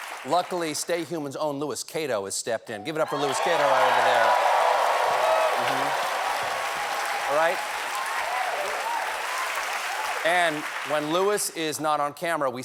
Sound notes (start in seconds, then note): 3.0 cheers and applause